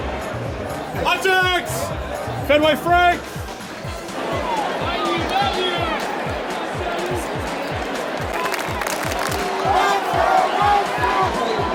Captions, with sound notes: Hot dogs! Fenway frank! (crowd chatters) (crowd claps)